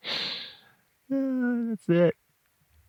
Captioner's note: laughs